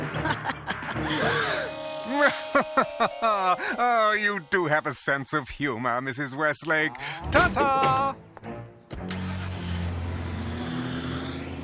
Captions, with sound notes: [laughs] [all gasp] - WELL... [laughs] OH, YOU DO HAVE A SENSE OF HUMOR, MRS. WESTLAKE. TA-TA. [engine rumbles]